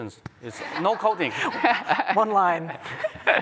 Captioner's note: laughter